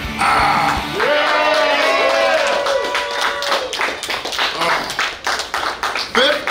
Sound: clapping & Cheering

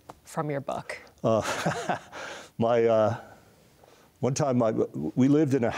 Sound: laughs

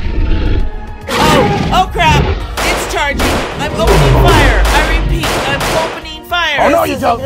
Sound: gunshot Sounds

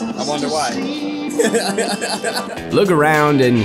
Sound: laughs

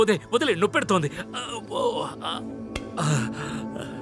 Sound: groans

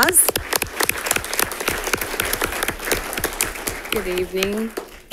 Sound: congregation claps

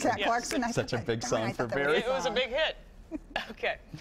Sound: laughter

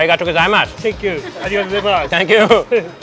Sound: speaks in foreign language

